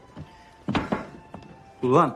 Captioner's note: knocking